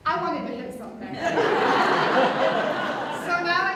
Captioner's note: audience Laughter